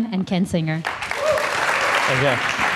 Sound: audience applauding

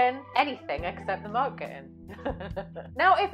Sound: laughs

